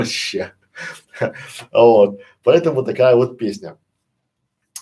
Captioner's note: Смеется